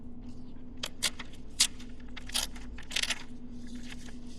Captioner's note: perforated paper tearing